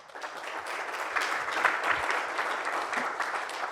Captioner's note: applause